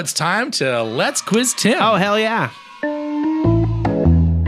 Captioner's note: kids cheer